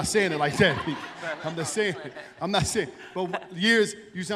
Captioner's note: laughter